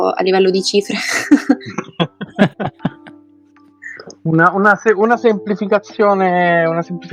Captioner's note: laughs